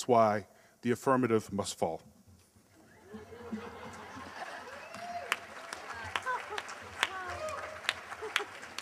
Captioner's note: applause